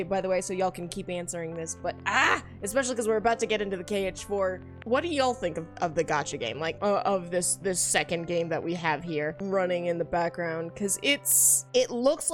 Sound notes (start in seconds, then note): none